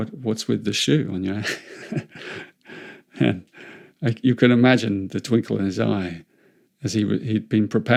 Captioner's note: chuckles